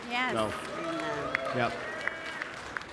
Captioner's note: audience applauding